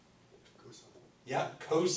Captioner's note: voiceover